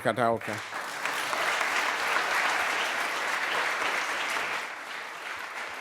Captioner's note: applause